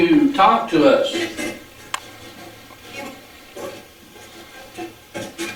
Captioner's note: static playback transmitting